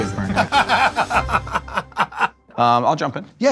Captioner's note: Q laughs